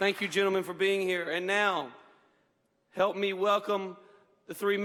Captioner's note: applause